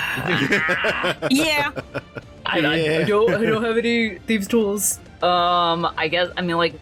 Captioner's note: sighing and laughter